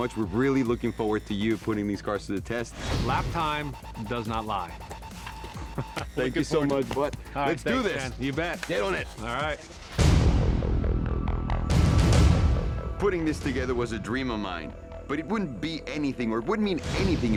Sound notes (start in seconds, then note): 5.5 laughter